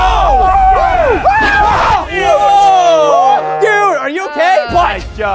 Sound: screaming

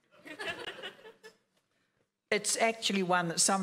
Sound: laughing

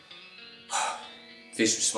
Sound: breathes out heavily

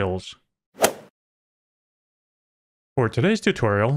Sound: golf ball hit sound

